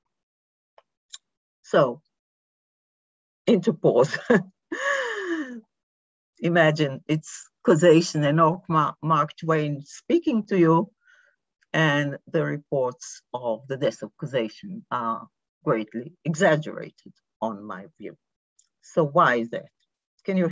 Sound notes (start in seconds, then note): 4.8 chuckles